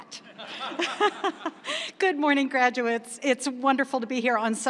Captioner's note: laughs